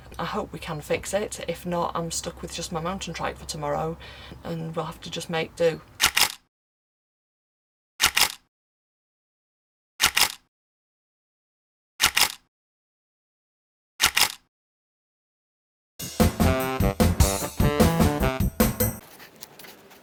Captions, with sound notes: I hope we can fix it. If not, I'm stuck with just my mountain trike for tomorrow, and we'll have to just make do. [Camera click] [Camera click] [Camera click] [Camera click] [Camera click] [Jazzy fill music]